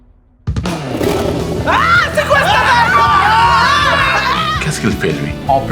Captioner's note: a monstrous roar